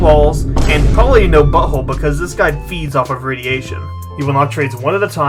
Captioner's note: boom